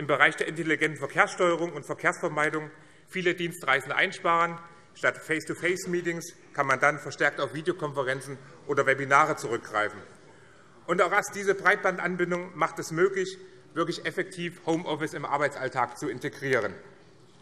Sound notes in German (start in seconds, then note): none